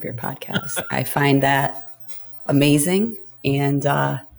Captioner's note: laughs